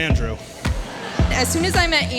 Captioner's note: spectators laughing